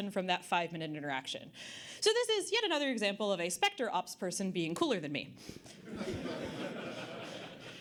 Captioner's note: audience Laughter